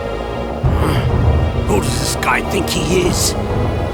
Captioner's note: gasp